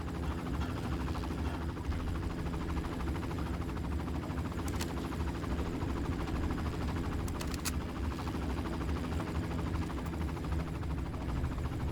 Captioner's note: helicopter whirring